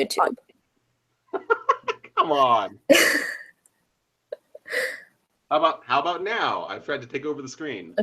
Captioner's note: laughs